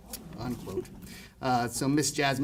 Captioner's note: audience murmurs